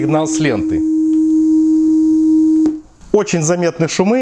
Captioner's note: oscillator signal